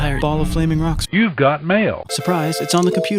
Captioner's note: computerized voice